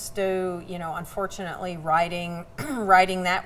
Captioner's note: clears throat